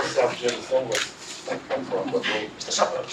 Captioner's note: laugh